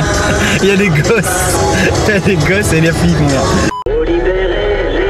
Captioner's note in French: rires